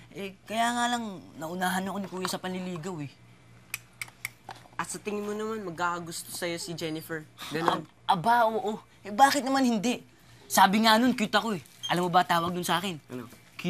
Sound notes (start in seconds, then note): 3.6 clicks tongue